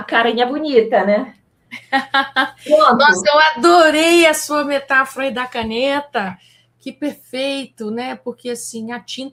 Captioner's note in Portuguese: risadas